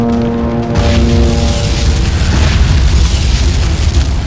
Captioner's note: explosions booming